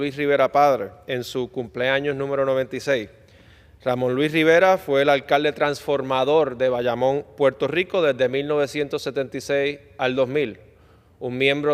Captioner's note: speaking spanish